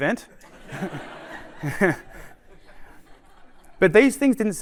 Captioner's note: laughter